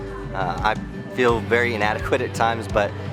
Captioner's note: laughs